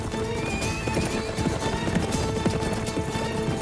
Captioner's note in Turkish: At kişniyor